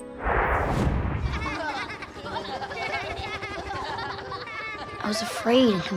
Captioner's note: laughing